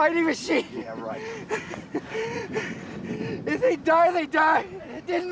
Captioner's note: sobs